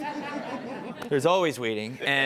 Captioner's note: audience laughing